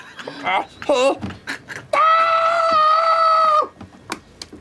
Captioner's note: screams